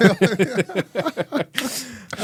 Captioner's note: laughing